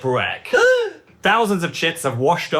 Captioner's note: gasping